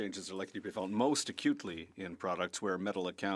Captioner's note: speaking French